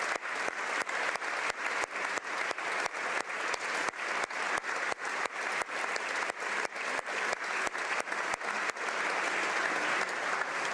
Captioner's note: applause